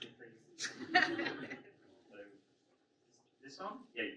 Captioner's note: audience laughs